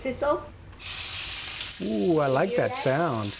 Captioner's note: pan sizzling